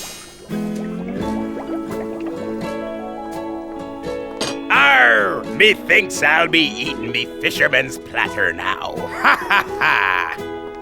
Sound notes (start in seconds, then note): 3.5 pirate voice